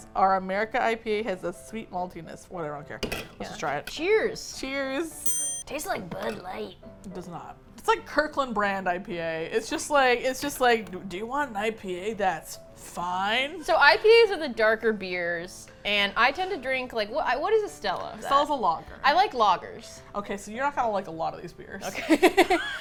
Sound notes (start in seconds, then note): 5.0 strained; 21.9 both laugh